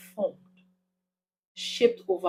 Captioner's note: paause